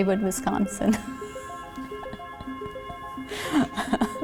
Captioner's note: laughs